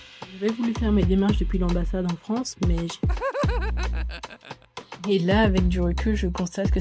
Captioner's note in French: rire